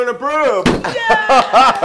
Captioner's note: laugh